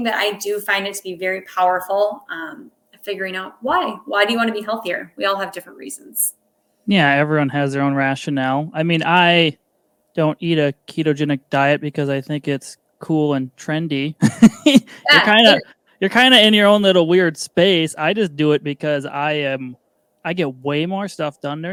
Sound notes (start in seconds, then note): 14.0 laughing